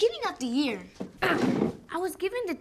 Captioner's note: grunts